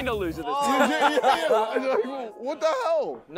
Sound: contestants laughing

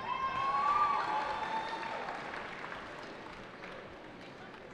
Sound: cheering

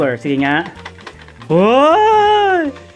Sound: rattling

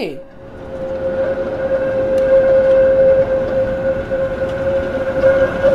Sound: train tracks rattling

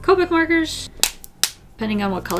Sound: smack, smack

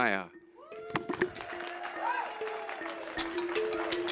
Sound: cheers and applause

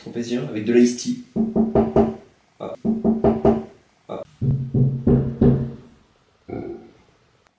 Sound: someone knocks on the door

